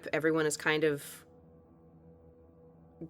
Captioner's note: none